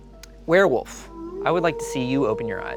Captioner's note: werewolf howling